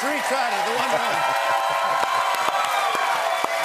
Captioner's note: cheers and applause